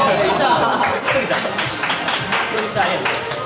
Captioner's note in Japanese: 拍手